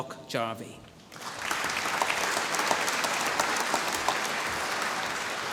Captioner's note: applause